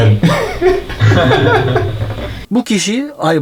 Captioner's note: laughter